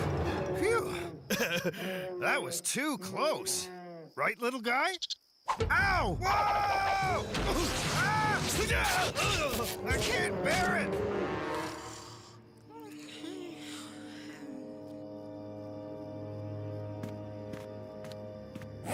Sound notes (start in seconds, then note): 1.2 giggles; 7.2 thudding; 7.7 Sam Screaming; 11.5 Cameron Snoring